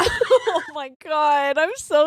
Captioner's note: laughing